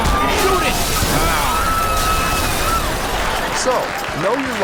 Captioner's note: screaming and crashing; more crashing and screaming